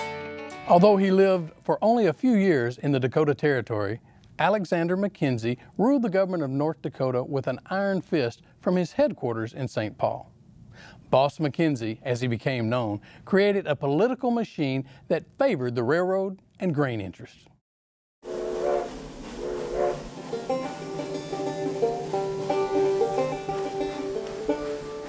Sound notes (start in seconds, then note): 17.7 train whistle; 19.8 banjo music